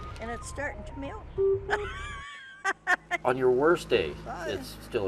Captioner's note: customer laughs